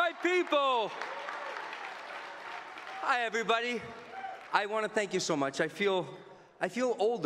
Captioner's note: cheering and Applause